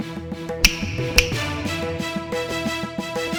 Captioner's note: snapping of fingers